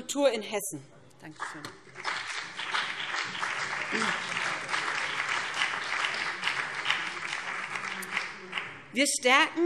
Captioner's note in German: Beifall